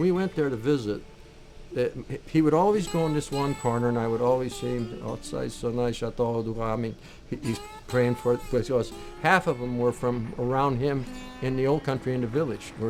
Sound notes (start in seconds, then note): 7.1 speaking foreign language